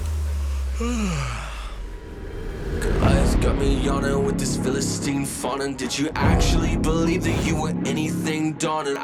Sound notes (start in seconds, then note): 0.4 yawns